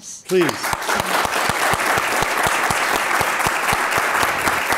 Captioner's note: applause